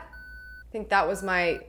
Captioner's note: beeping